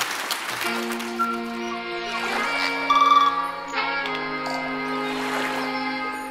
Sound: downtempo folk music; waves crashing

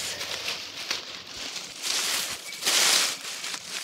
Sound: leaves crunching

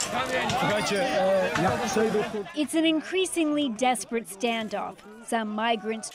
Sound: crowd noise

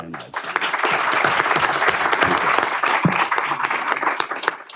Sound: applause

